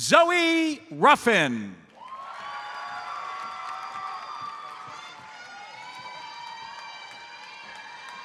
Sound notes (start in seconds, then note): 1.9 audience cheers and applauds